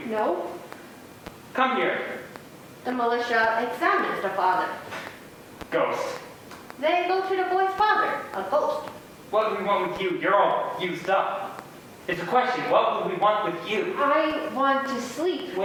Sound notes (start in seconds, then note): none